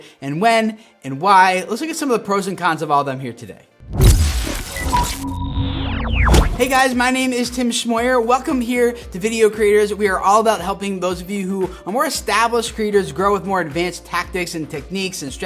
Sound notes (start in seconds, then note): 3.8 futuristic whoosh